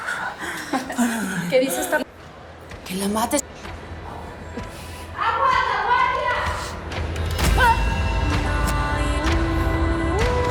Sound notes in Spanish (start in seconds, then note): 2.5 Grito